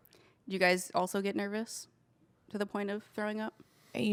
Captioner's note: none